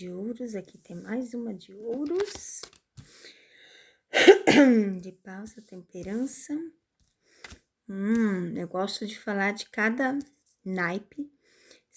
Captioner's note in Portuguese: limpando a garganta